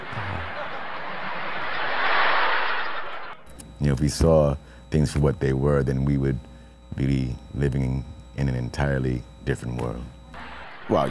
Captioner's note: laughter